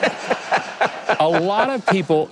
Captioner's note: audience laughing